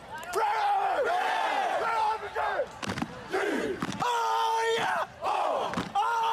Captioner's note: screaming